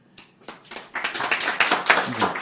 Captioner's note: audience applauding